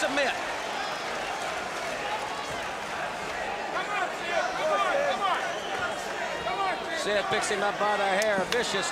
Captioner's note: crowd chatter